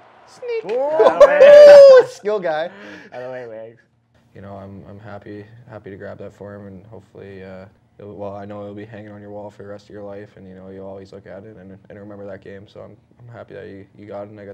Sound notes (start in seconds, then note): 0.4 all laughing and cheering